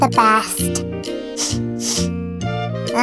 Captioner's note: sniffing